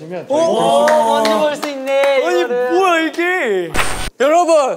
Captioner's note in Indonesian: tepuk tangan